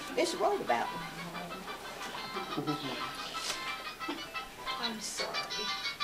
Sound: cellphone ringing

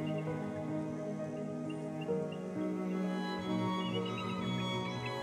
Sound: birds chirping

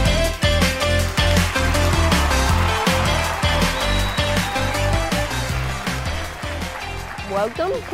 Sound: applause

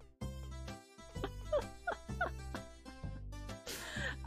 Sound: chuckles

